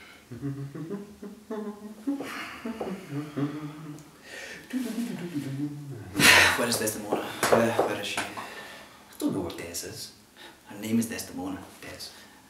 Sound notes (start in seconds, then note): 0.2 humming; 5.9 sigh